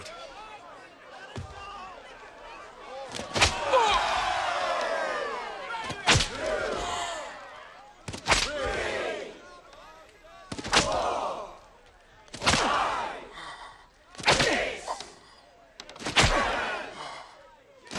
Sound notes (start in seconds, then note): 3.2 crowd; 4.7 wincing; 5.8 crowd